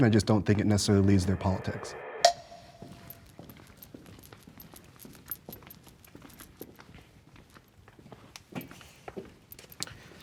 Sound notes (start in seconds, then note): 1.9 dramatic music; 3.2 footsteps thudding